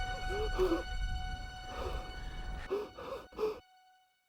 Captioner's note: gasping